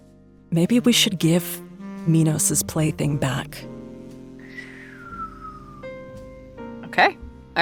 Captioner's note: SOMEONE whistles